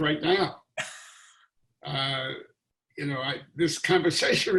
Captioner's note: laughing